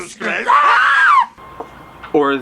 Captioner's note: screaming